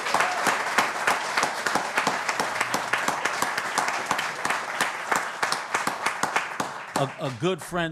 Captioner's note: applause